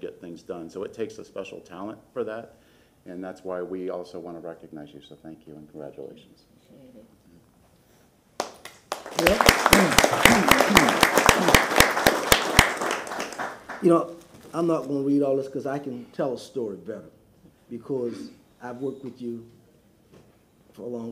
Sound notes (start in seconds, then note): 10.7 applause